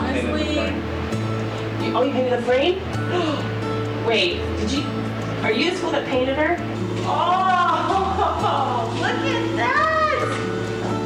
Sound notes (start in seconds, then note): 3.1 gasps; 7.6 laughs